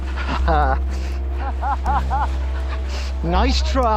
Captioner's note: laughter